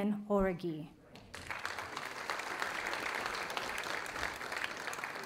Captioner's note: audience applauding